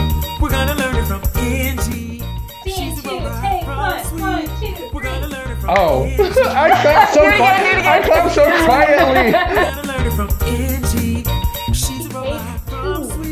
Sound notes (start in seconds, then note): 5.7 clap; 5.8 laugh; 5.8 laughs